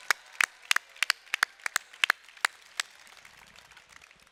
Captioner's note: applause